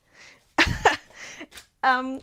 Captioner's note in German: Gelächter